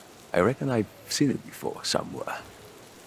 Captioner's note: none